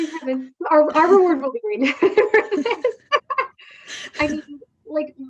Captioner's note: both laughing